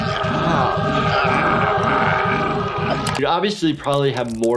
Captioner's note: haunting music; groaning